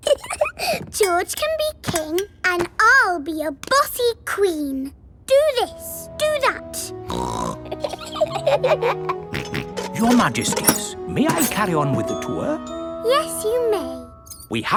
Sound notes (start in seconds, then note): 0.0 giggles; 7.1 snorts; 7.3 both giggle; 9.3 snorts